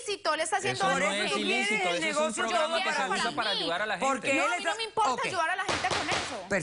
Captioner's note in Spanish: Hablan al unísono